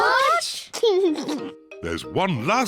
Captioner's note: laughs